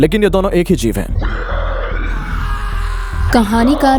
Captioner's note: growling, grunting